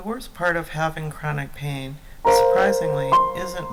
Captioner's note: voiceover